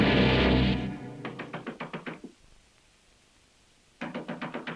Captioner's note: rain whooshing; tense music continues; door tapping